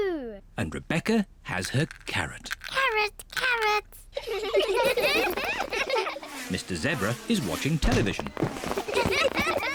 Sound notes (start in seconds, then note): 4.1 all giggle